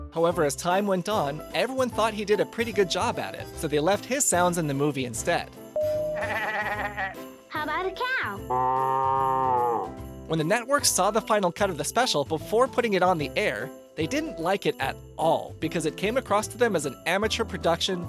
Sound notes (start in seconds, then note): 6.0 sheep call; 8.5 cow mooing sound